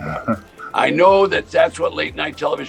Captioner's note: laughs